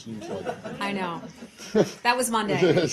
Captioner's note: laughter